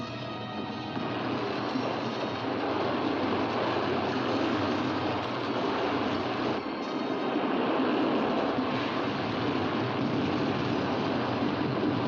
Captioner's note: rumbling sound; suspenseful music; rushing water